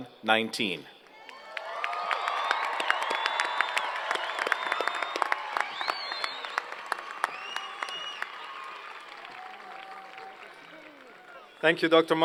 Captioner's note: cheers and Applause